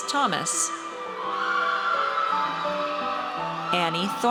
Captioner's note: audience cheers